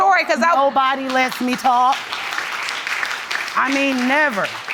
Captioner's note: audience applauds